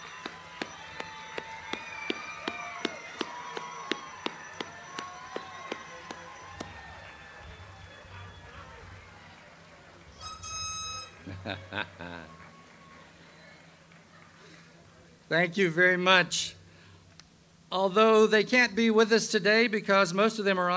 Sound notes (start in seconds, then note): 11.1 laughs